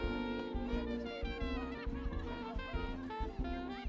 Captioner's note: people chattering